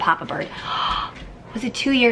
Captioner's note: inhales